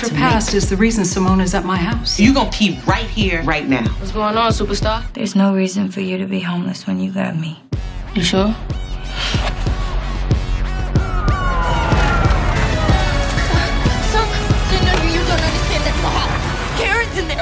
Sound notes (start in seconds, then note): 10.8 first responder sirens blaring